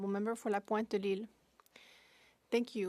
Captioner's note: speaking French